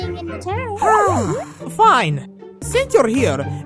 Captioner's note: sighs